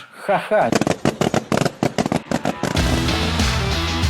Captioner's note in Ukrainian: звук кульок, що лопаються